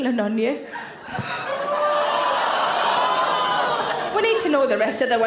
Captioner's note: audience gasp and groan